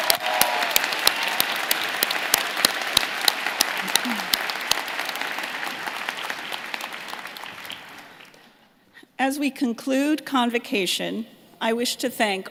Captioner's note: applause